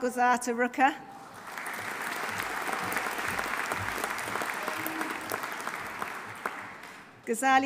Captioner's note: audience applauding; audience cheering